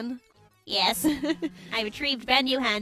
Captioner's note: laughs